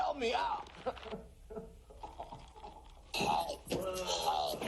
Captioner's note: choking sounds